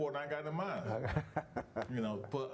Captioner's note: laughing